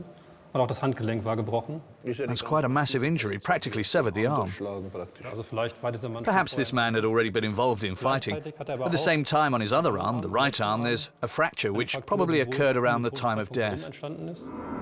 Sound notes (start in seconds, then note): 2.2 in German; 5.2 speaking German